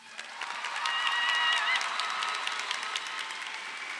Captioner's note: crowd applauds